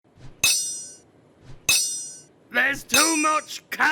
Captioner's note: clanking